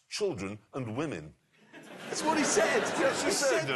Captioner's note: laughter